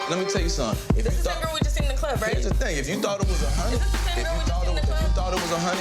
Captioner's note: overlapping chatter